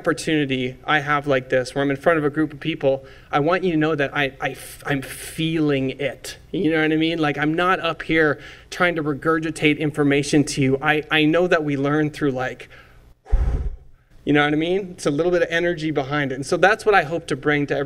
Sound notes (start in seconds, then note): 12.7 exhale